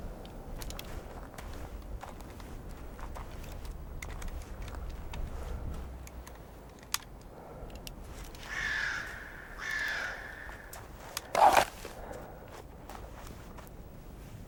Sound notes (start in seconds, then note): 8.4 birds cawing